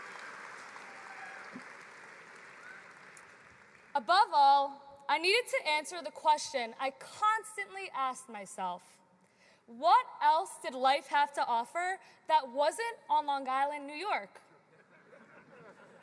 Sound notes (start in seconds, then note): 0.0 cheering